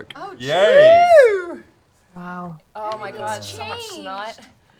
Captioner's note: cheering